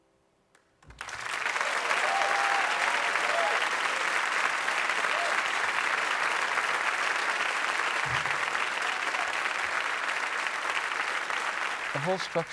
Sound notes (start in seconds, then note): 3.4 audience applauding